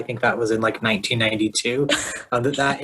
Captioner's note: laughs